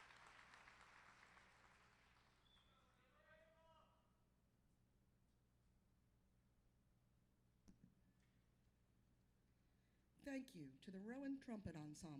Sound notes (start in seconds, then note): 2.4 cheers and applause